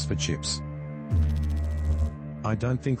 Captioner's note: electrical noise